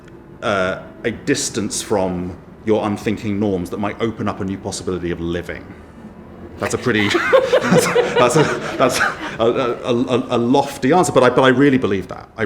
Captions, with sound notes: a distance from your unthinking norms that might open up a new possibility of living. That's a pretty. (everyone laughs) A lofty answer but I really believe that.